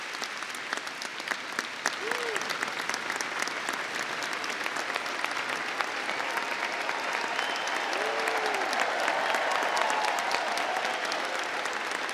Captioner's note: applause